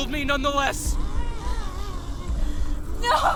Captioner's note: Giree grumbles